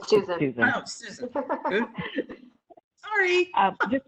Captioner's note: laughing